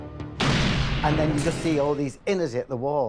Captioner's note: gun blasts